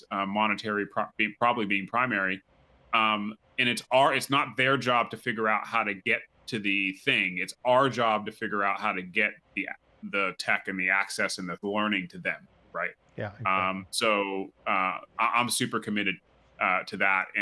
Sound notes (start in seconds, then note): 13.2 murmurs